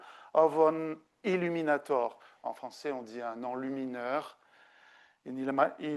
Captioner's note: speaking French